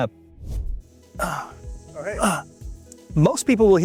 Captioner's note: grunting